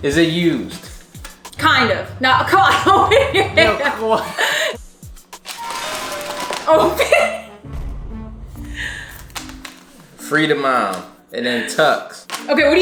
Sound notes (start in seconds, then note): 2.5 laughing; 5.4 dramatic music; 6.6 laughs